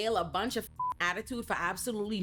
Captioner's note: beep